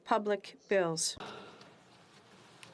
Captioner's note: speaking French